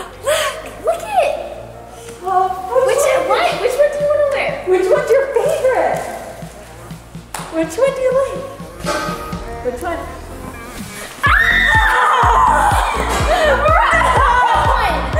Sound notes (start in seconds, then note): 1.3 both mumbling; 9.0 upbeat music; 11.2 screaming; 12.2 all laughing